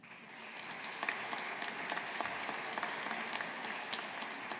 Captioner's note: audience applauding